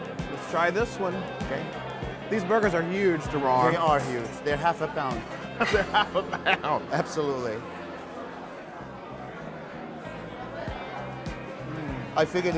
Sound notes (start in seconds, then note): 5.6 laughter